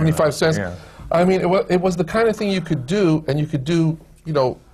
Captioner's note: none